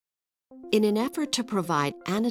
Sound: voiceover

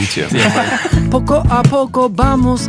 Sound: friars laugh

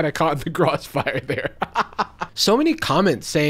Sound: laughs

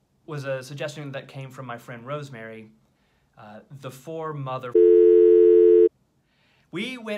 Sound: telephone dial tone

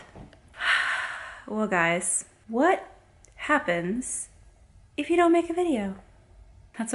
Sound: sighs

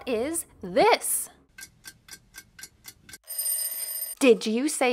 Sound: clock ticking, ringing

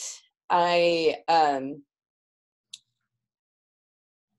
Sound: audio fades out

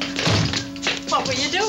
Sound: door thudding

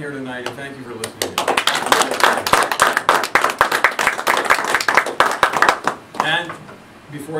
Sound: audience Applauds

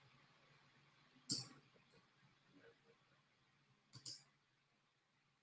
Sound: mouse clicking

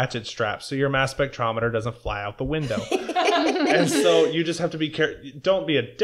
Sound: laughter

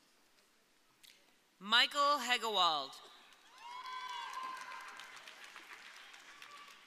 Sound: audience cheering

